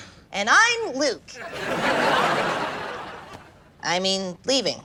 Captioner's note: laughs